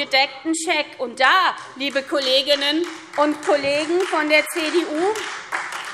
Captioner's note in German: Beifall SPD und Freie Demokraten